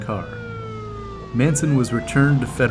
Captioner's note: siren wailing